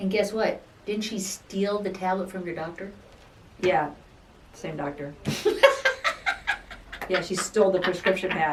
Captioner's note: laughing